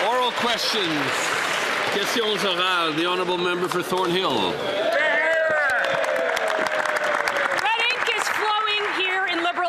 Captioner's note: some Applause